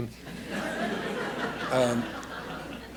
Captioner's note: laughter